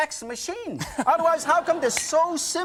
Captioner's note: laughs